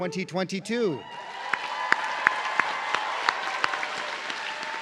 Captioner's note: audience cheering